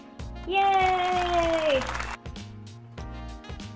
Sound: audience applauding; upbeat music

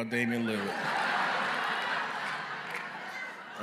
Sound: laughter

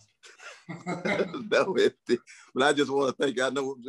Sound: laughter

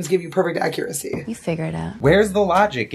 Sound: Canadian accent

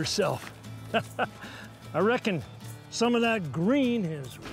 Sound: chuckles

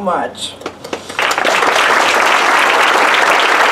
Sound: applause

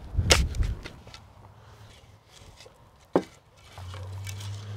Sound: shovel chopping dirt

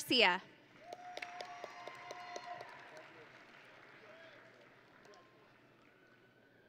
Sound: audience and graduates cheering

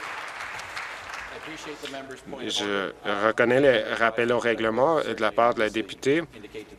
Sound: applause

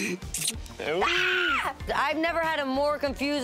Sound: screams

